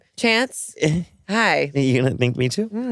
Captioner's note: chuckles nervously